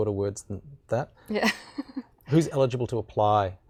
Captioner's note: laughing